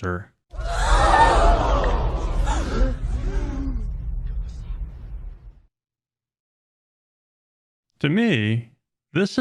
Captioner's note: crowd gasping sound effect